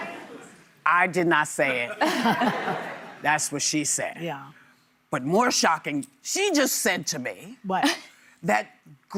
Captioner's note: laughter